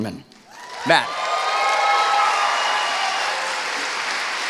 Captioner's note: cheering